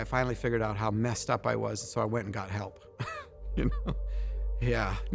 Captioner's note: chuckling